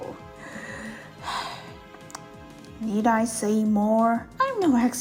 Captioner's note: sigh